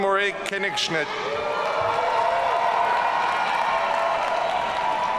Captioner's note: audience cheering